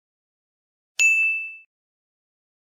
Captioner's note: Cinemasins ding